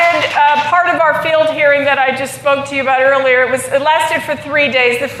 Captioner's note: applause